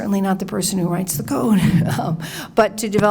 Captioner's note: chuckles